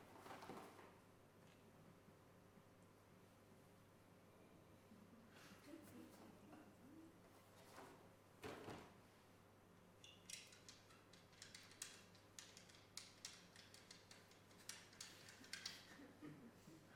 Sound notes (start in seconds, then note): 0.0 items shuffling; 10.2 cap rattling